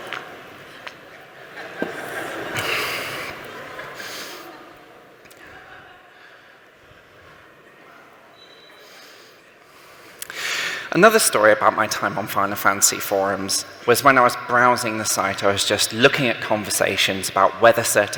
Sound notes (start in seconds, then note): 1.5 laughter